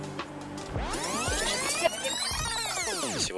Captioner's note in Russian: звуки перемотки